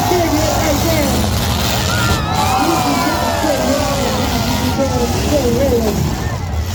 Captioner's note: crowd laughs and cheers; cars hit; crowd cheers; crowd; cars rev and crowd cheers